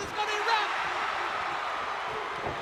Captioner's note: crowd cheering